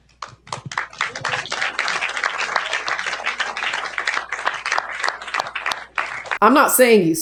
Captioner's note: applause